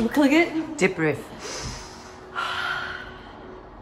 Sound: deep breath

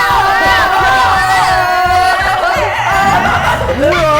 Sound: vroom vroom

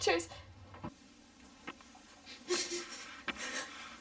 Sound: rustling sound; sobbing

